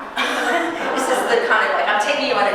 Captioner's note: audience chuckling